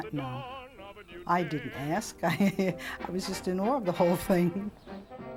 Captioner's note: laugh